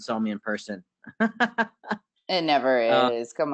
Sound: laughs

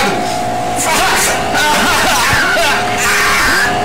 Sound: screams

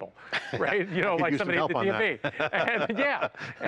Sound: laughs

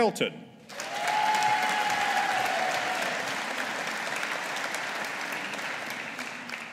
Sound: audience applauding

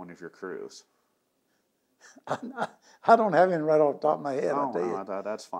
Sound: laughs

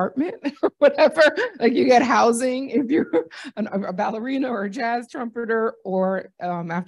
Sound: laughter

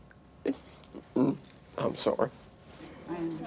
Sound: stammers

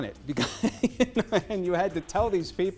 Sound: laughter

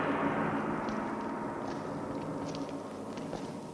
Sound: gong banging

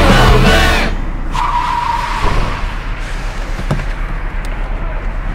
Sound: tires screeching

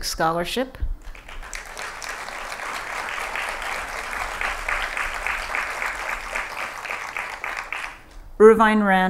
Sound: applause

